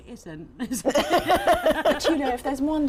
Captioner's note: laughs